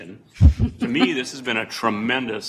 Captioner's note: laughter